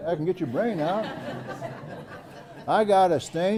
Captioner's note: laugh